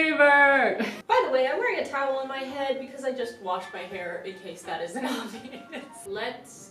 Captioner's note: chuckles